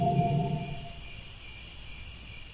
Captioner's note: crickets